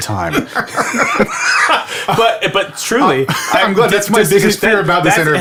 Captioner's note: laughs